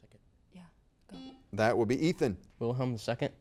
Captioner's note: buzzer beeps